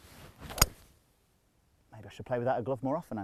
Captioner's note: club thwacks